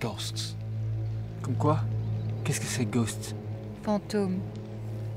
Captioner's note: chattering in French